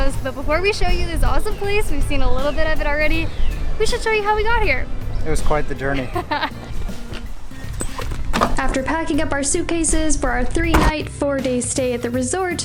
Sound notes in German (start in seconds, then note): 5.7 lacht